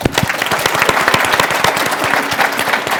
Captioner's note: applause